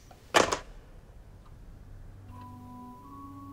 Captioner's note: phone clatters; light music